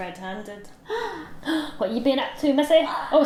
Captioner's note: both gasp in surprise